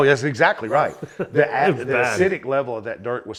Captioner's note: laughs